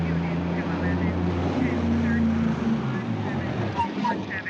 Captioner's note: radio chatter